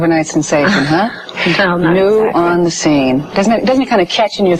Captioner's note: laughing